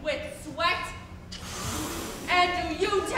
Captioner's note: Grumio hisses